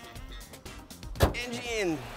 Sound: hood closes

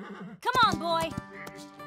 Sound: whinny

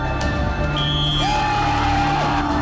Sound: whistle

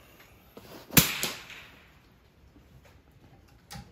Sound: gun bangs

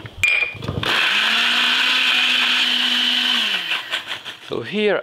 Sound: blender running

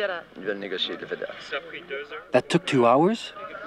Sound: reporter speaking in foreign language; speaking in foreign language

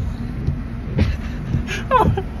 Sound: laughs; sister laughs

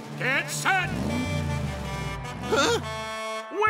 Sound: truck horn

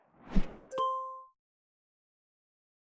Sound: logo whooshing

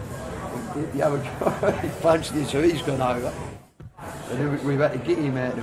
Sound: laughs

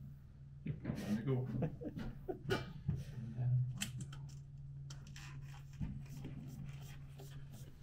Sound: laughing

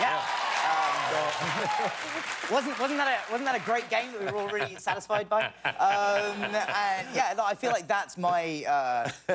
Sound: applause

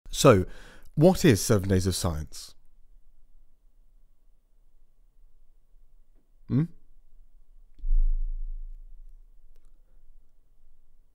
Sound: silence

